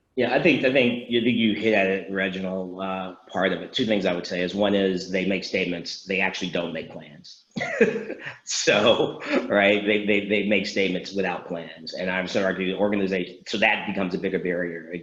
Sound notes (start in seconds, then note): 7.6 laughs